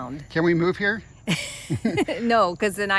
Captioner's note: laughing